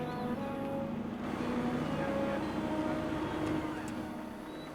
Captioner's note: indistinct chatter